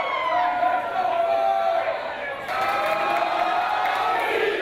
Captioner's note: people Cheering